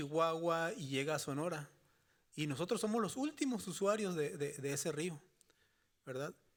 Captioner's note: speaking Spanish continues